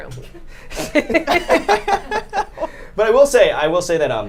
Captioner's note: group laughs